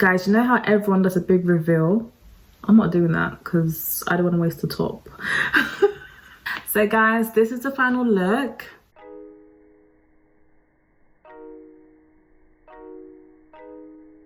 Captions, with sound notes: And guys, you know how everyone does a big reveal? I'm not doing that, 'cause I don't wanna waste a top. (laughs) So guys, this is the final look. (uplifting music)